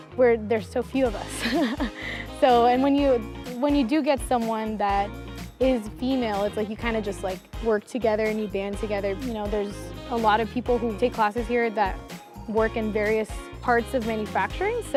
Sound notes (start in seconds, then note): 1.4 laughing